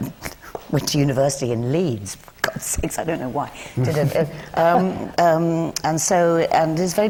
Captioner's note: laughs